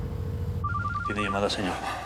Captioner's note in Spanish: la otra línea timbra; suena el celular